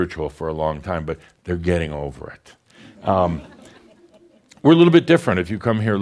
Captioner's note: a few chuckles